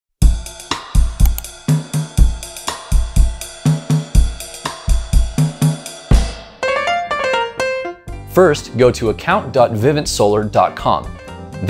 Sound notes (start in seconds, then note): 0.2 perky music; 1.2 clicking